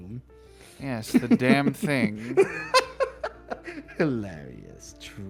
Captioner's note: laughs Maniacally